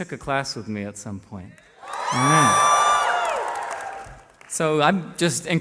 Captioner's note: cheering